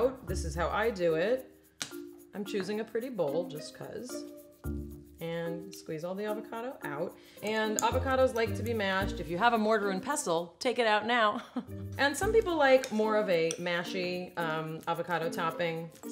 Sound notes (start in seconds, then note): 11.6 laughs